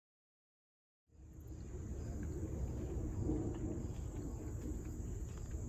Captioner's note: insects softly buzzing